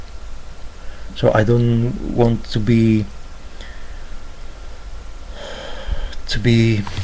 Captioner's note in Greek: ξεφύσημα